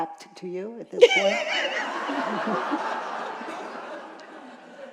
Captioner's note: laughter